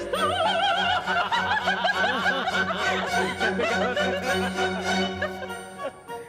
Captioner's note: laughs